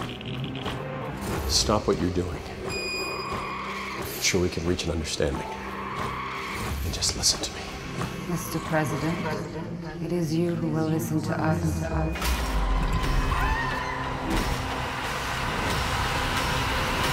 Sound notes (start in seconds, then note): 11.7 suspenseful music; 12.9 screaming; 14.4 suspenseful music